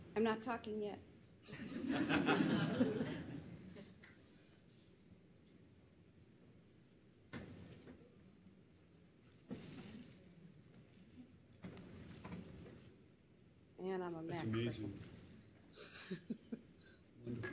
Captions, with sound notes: - I'm not talking yet. (audience laughs) And I'm a Mac person. - That's amazing. (audience member laughs)